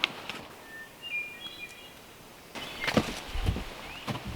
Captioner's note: bird chirping